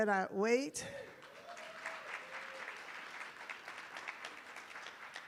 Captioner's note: attendees applauding